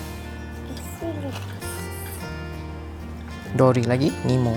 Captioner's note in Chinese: 英语